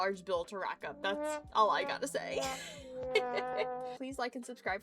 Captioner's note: giggles